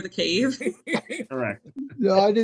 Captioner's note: laughs